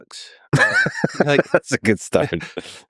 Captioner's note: Tim and Lex laughing